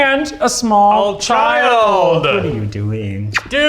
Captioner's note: kisses